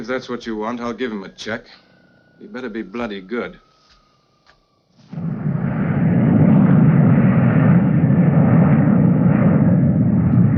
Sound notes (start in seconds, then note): 5.4 plane whirring